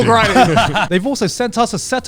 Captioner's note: laughing